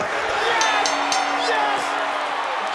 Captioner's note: bell ringing